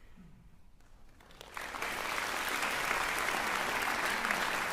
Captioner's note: applause